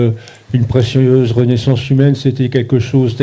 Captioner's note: speaking in French